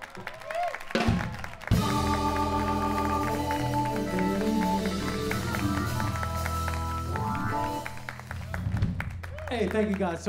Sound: applause

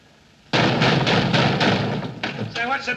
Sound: knocks on door; knocks on door louder

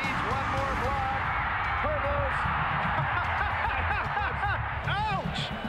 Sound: laughs

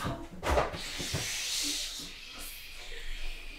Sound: A lot of shushing

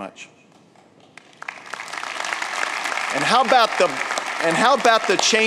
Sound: applause

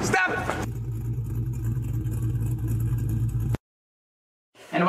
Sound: engine roaring

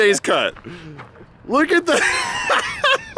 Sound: laughs

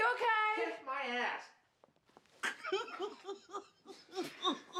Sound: muffled Laughter

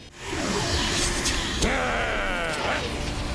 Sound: growls

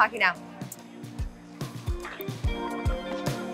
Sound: lips smacking; ambient music

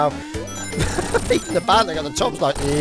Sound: chuckles

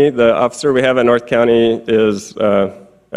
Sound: none

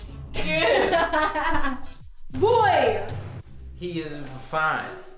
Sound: laughs

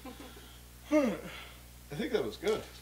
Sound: laughs; yawns

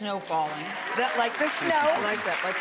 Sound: audience applauds

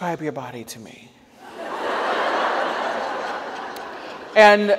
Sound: audience laughs

